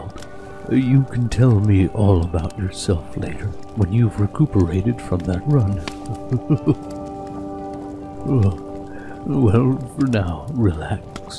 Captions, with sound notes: You can tell me all about yourself later when you've recuperated from that run *chuckles* Oh... well for now, relax.